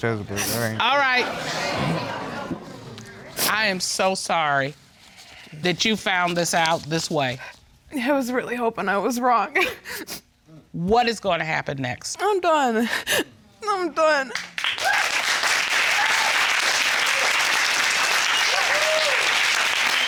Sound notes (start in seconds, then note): 12.8 sobbing; 14.3 applause